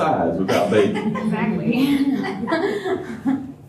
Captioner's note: laughter